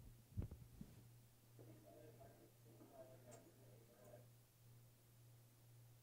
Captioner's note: background Discussion